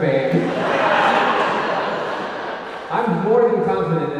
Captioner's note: audience laughing